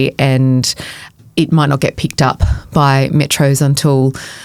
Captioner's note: none